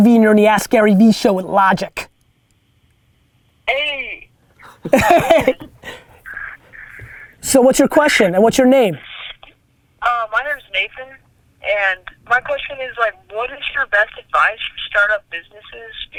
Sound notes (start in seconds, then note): 4.6 laugh